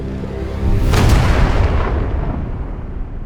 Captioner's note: explosive blast